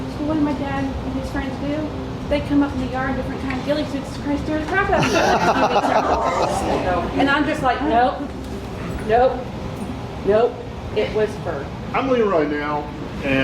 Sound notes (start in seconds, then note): 4.9 group laughing